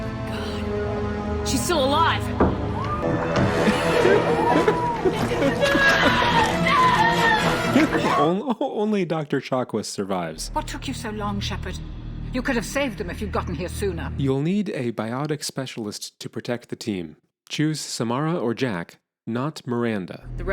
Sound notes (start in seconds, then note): 3.6 narrator laughs; 3.9 Kelly Chambers screams